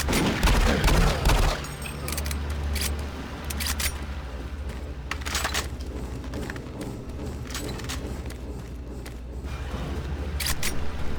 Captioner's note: gun fires